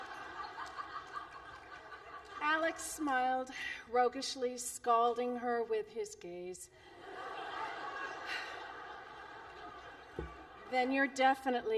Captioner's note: laughter